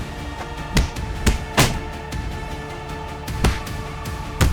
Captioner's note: punches thunking